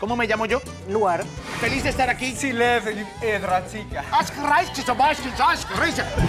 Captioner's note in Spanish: Habla al revés; Habla al revés